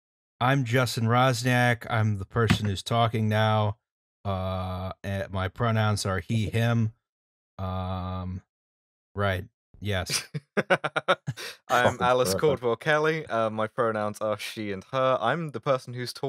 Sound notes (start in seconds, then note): 10.1 laughter